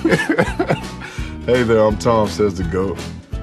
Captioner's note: laughs